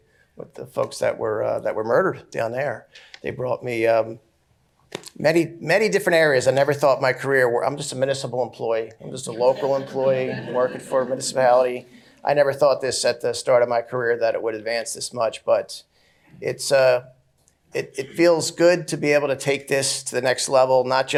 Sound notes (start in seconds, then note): 9.3 laughter